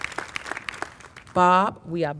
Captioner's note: applause